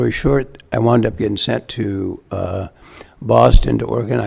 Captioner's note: none